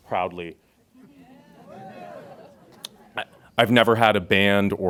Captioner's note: audience laughs